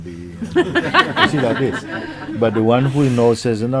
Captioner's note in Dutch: Gelach